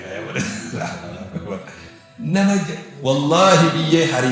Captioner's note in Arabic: ضحك